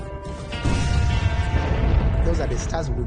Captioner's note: explosion; explosion booming